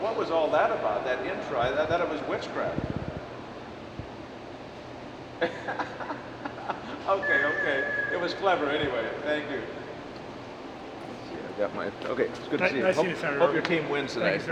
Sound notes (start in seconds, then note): 3.5 laughs